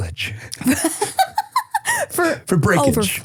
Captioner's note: person laughing